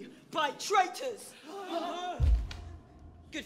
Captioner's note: crowd gasping